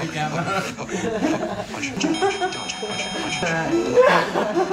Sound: laughs

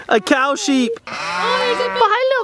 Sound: laughs; goats bleating

